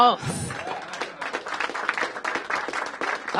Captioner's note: applause